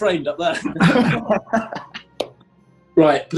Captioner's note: laughing